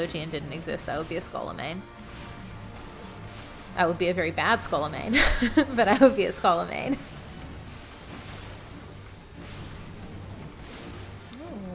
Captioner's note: laughs